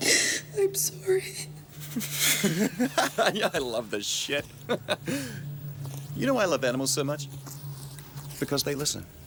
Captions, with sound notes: - I'm sorry. (Graham laughs) - Yeah, I love this shit. You know why I love animals so much? Because they listen.